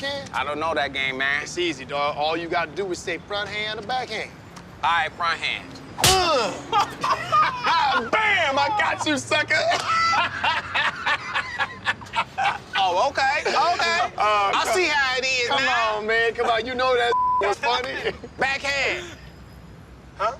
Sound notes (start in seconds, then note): 6.7 friends laugh